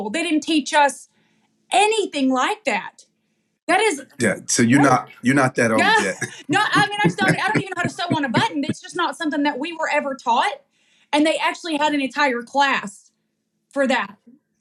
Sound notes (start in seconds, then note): 4.4 laugh